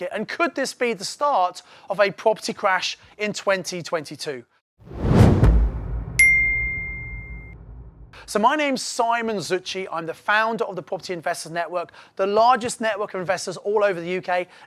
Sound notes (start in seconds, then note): 4.8 logo whooshing